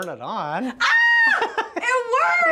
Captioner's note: laughing